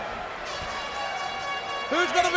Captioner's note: horn blasting